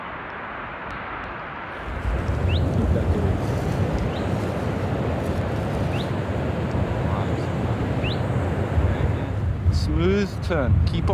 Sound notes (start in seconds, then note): 2.7 wind rustling